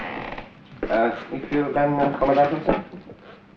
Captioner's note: German spoken audio